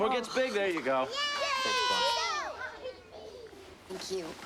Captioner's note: kids cheer